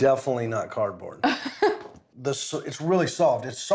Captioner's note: laughs